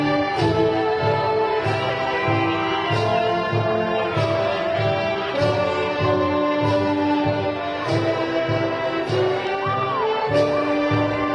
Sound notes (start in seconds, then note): 0.2 graduation music continues; 5.4 crowd cheering